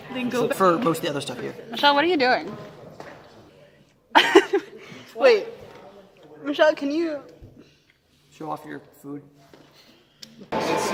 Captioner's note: giggles